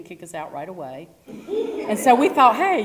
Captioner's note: laugh